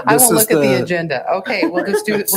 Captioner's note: chuckling